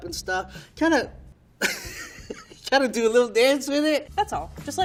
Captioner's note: laughing